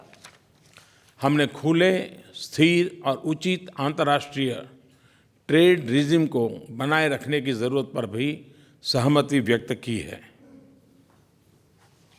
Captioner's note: PM Modi speaks in Hindi